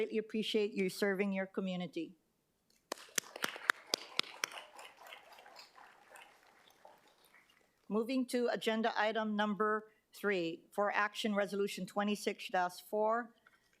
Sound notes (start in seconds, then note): 5.6 applause